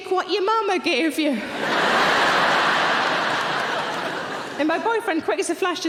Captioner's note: audience laughing